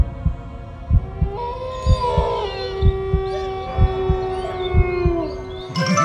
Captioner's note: wolf howling